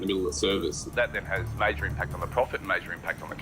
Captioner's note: via laptop